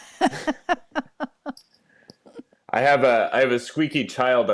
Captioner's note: laughing